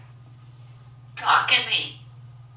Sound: none

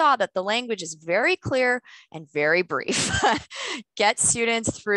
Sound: laughter

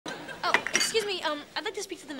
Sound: audience laughing

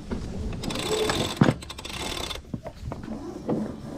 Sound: winch cranks

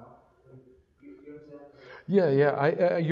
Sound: audience member talking in the background

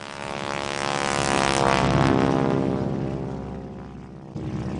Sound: plane Engine Running

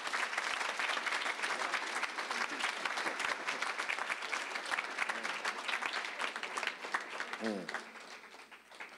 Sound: applause

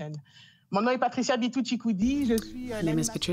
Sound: speaking in French

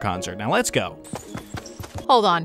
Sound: footsteps tapping

